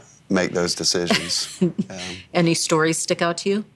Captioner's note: laughs